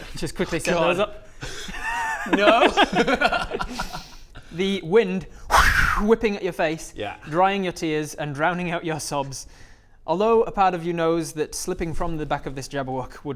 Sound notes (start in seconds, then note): 1.4 taunting laugh; 3.3 giggles?